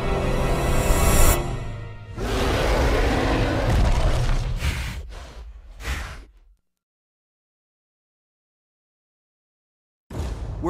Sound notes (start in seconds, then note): 2.1 load roar; 4.4 snorting